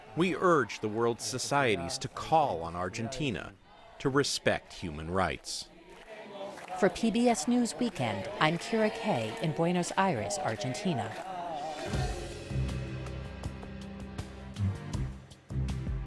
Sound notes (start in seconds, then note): 7.2 voice-over